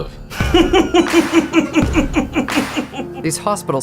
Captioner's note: maniacal laughter